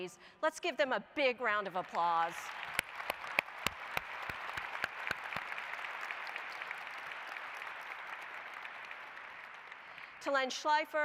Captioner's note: applause